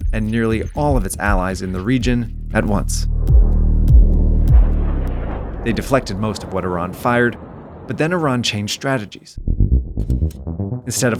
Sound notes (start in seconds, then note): 2.4 missiles rumbling; 3.2 suspenseful music; 9.4 suspenseful music